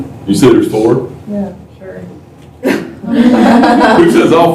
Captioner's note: laughter